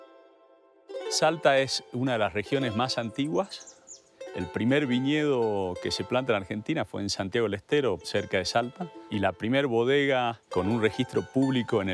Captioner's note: speaking Spanish